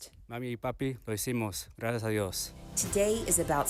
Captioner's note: student speaking Spanish